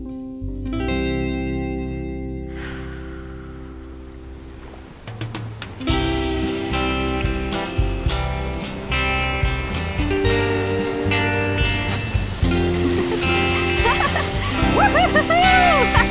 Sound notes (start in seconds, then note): 2.5 Joss sighs; 5.7 upbeat music